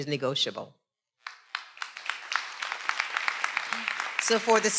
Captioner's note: everyone applauding